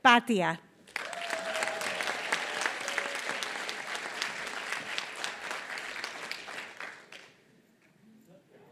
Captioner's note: applause